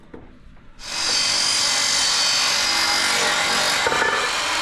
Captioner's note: machine whirring